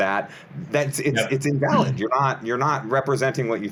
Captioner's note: clears throat